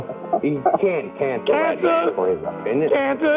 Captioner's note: laughs